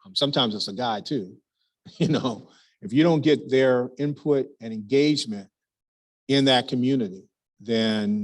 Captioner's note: laugh